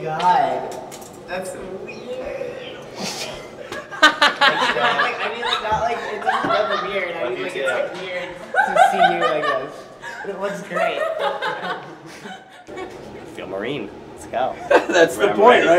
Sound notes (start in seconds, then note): 3.2 laughing